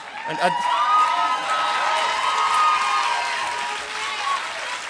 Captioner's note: applause